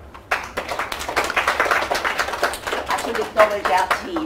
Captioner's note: audience clapping